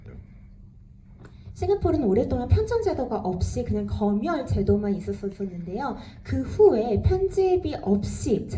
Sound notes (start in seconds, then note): 1.9 speaks in foreign language